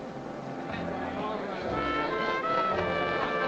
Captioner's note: crowd chattering; bright music playing